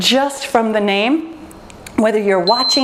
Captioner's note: timer beeps